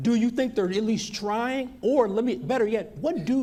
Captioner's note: none